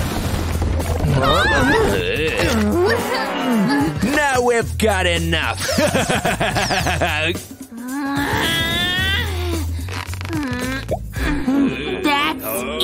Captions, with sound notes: Ahhh! *moaning* Now we've got enough! Hahaha!